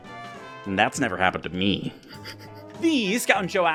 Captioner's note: laughs the pain away